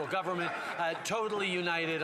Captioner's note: some Applause